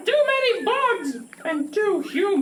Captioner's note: grasshopper chirping